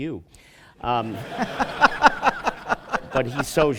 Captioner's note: laughter